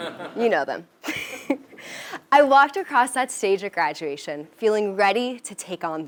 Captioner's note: laugh